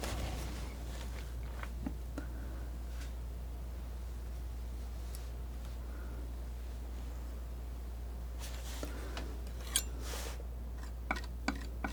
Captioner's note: tapping